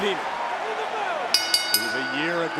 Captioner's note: bell ringing